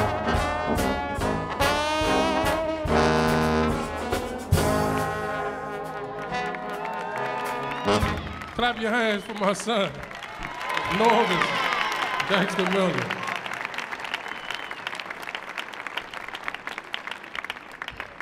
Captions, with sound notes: (audience applauds) Clap your hands for my son, Norvus. (audience cheering) Thanks to Norvus.